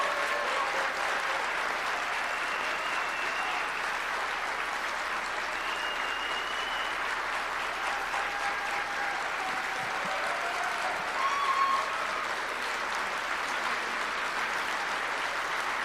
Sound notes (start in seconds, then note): 4.2 applause